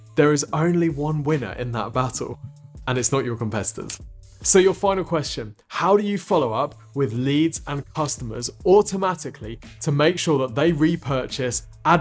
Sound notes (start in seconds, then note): 3.8 fingers snap